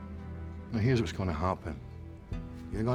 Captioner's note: scottish accent